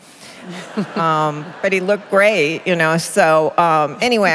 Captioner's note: laughter